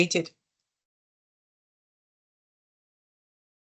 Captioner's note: silence